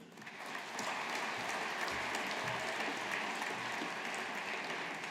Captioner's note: audience applauding